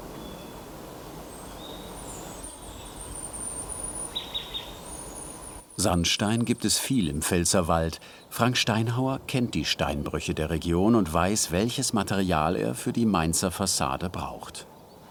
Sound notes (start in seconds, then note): 2.2 birds chirping